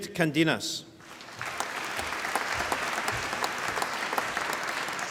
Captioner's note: applause